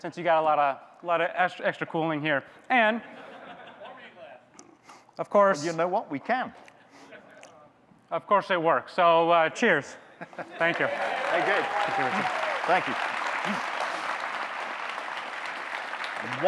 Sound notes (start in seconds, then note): 10.4 audience clapping, cheering; 13.5 audience clapping